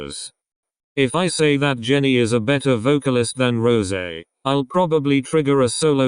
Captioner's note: with an accent